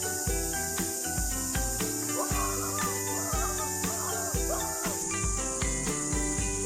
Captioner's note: laughs